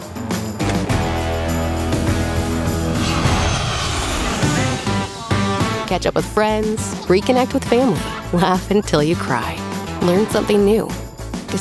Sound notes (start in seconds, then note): 0.0 upbeat music continues; 3.0 airplane engine roars